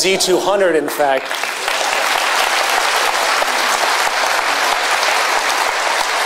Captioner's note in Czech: potlesk